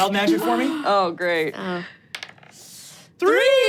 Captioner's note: dice rolling